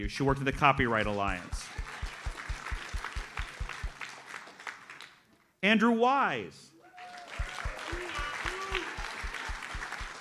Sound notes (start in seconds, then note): 2.3 audience applauds; 6.8 audience applauds